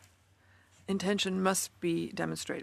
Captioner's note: speaking French